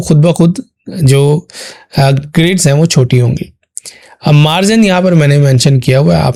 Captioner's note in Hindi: गला साफ़ करने की आवाज़